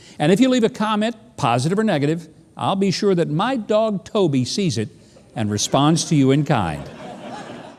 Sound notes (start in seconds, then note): 5.4 audience laughing